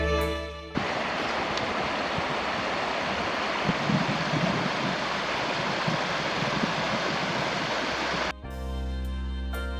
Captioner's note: running water